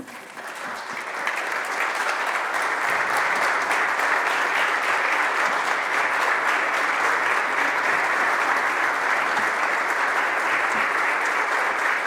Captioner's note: applause